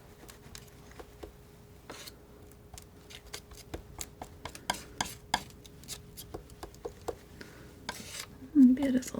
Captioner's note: scratching